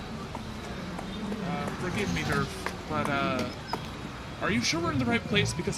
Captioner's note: city sounds: honking, bustling, sirens, foot traffic, passing vehicles; clopping over